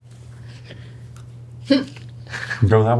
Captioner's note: laughing